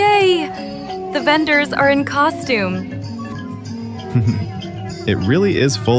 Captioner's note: laughs